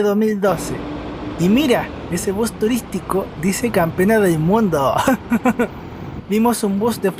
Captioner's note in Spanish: risas